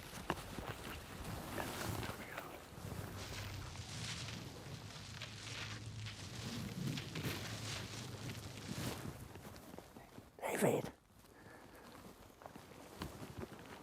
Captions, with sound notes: - Elephant coming out. (bush rustling) David.